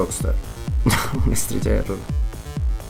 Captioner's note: laughs